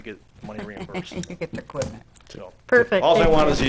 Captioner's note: laughs